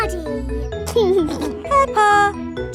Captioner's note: giggling